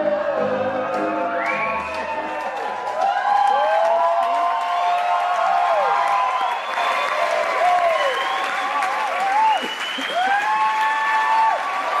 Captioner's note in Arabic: هتاف الجمهور